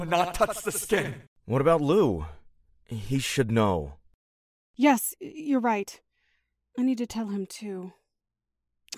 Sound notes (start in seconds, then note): 1.5 In Andy’s voice